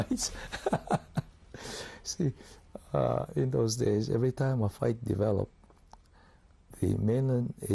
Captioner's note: laughs